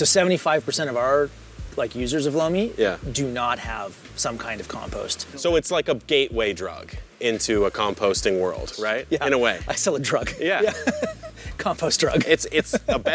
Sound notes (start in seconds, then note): 11.4 laughing